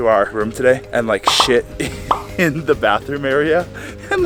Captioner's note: laughing amusingly